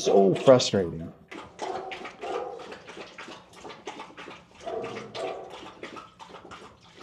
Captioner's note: water splashing; dogs barking